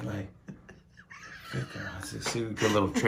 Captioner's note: laughing intensifies